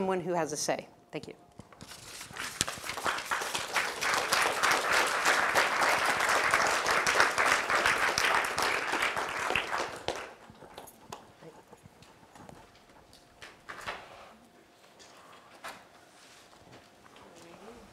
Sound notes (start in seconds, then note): 6.2 applause